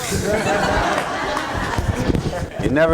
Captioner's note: laughter